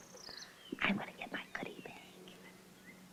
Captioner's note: whispering